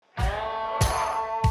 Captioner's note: crowd Chanting